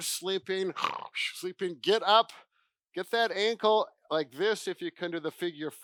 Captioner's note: snores